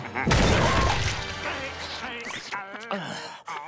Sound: laughing; groaning

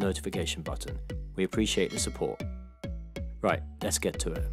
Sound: bell ringing

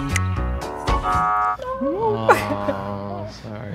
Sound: buzzer sounds

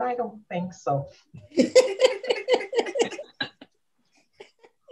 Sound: laughter

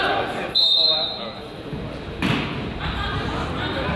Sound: whistle blows

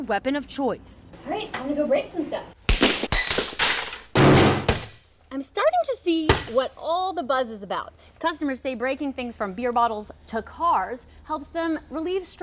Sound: nat: boom

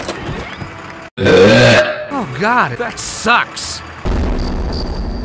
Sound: loud burp

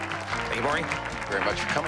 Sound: applause

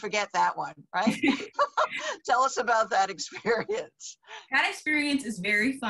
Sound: laughing

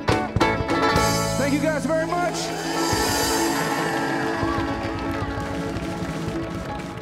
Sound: vigorous music; audience applauding

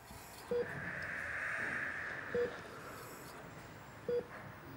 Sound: breathing heavily

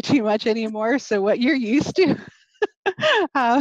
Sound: laughing

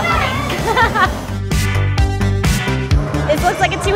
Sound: laughing

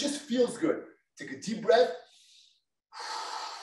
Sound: inhales

